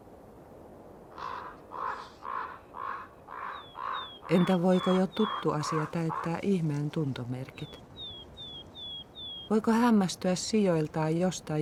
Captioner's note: crow cawing